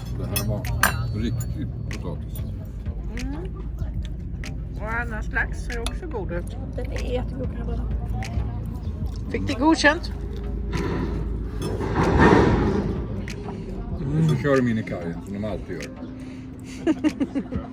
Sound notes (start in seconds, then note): 11.8 high slammer and bang in the background; 16.6 laughter